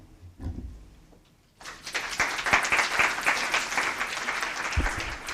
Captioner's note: applause